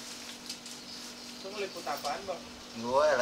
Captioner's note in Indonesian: Suara Orang